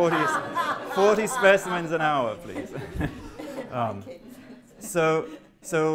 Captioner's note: laughter